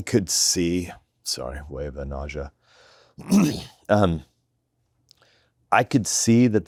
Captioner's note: clears throat